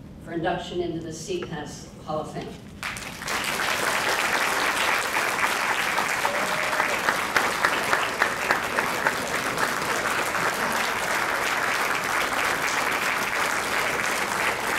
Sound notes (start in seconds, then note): 3.4 crowd clapping